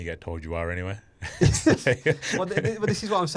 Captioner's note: both laugh